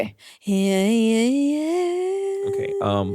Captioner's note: vocalizing